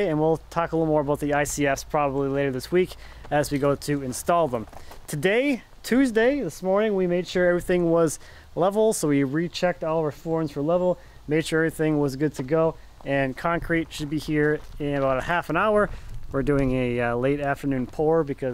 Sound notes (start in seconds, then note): none